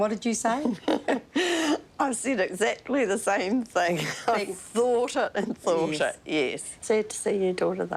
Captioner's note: chuckles